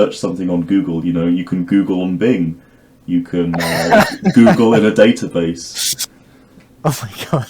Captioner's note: laughing